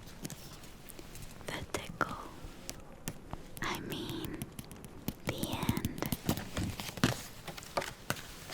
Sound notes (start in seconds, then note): 2.8 taps; 5.1 taps